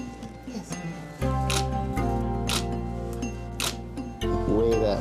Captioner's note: camera clicking